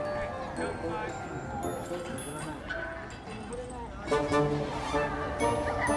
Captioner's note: laughs